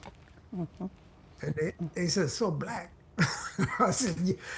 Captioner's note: laughs